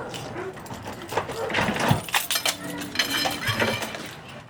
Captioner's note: keys unlocking door